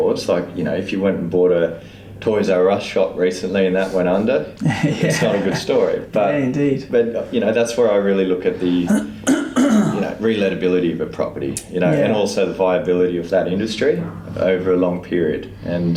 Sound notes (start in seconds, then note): 4.6 laughs